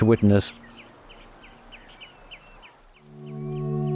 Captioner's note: birds calling; gentle music